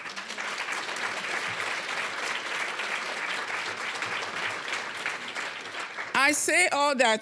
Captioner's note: applause